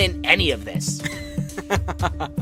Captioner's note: baseball laughs